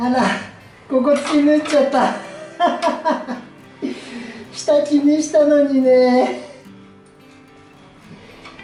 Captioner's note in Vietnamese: cười